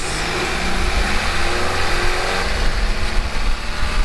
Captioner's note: engine roars